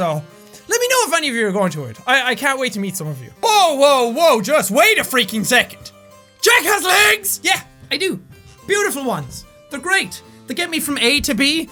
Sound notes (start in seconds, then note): none